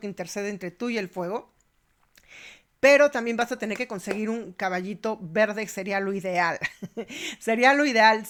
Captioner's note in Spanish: risas